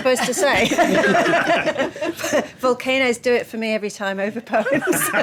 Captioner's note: laughing